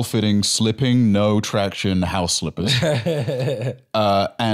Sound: laughs

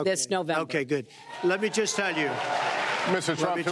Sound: applause

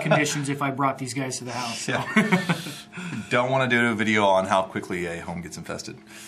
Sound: laughs

